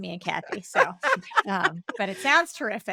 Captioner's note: laughing